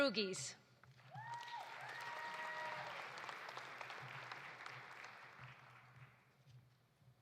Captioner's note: audience applauding; audience cheering